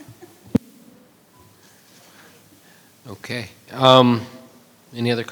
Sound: audience members laugh

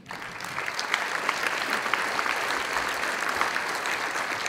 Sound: audience applauds

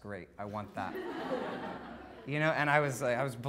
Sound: audience laughing

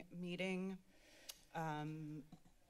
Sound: clicks Tongue

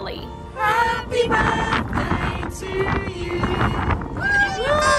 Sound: crowd

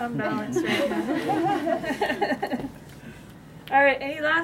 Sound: laughter

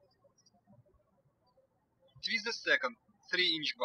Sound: birds chirping

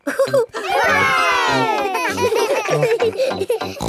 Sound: chuckles; laughing

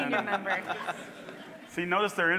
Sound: all laughing

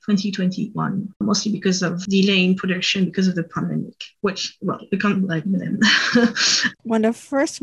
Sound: awkward french laugh

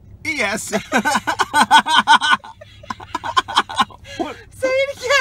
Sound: starts laughing

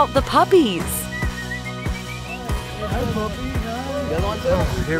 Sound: whistling

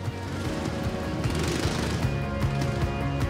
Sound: engine rumbles

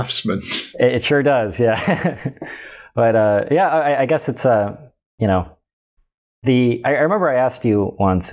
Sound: chuckles

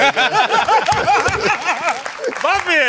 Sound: laughter

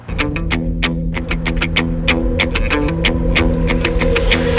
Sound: creeping

